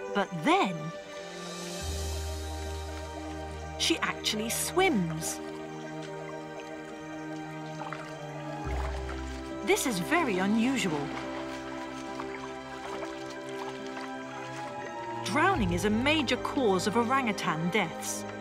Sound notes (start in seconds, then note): 11.7 water splashes